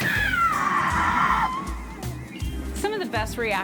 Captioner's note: screaming